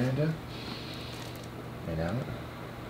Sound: breathing

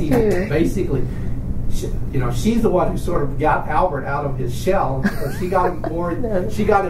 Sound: laughs

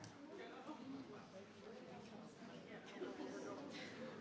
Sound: crowd chattering

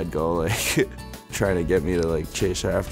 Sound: laughs

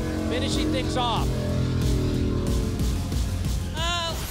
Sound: jetboat sounds

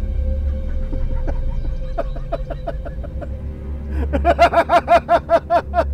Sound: devilish laugh

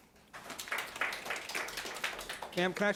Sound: audience applauding

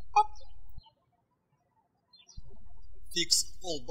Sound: birds chirping

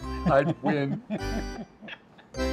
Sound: laughing

